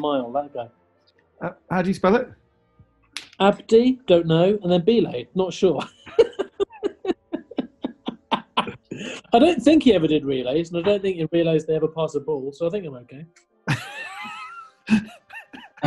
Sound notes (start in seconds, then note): 5.7 giggling; 13.7 laughing